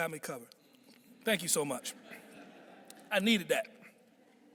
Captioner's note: audience chuckling